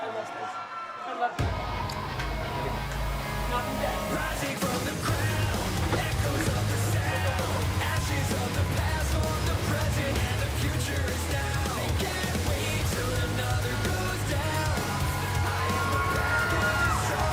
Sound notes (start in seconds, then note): 0.0 cheers and applause